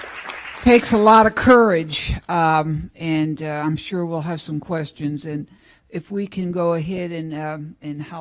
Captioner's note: applause